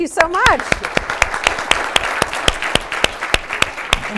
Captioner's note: applause